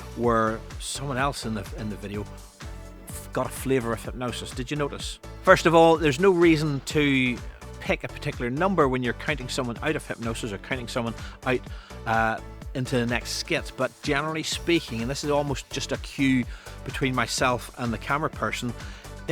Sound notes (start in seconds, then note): none